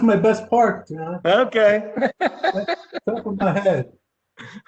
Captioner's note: laughter